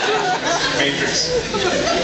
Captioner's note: laughs